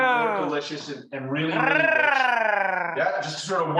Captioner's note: growls